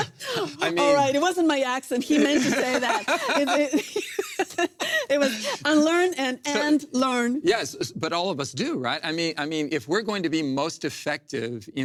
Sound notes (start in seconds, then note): 2.0 both laugh